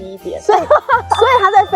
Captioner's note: laughs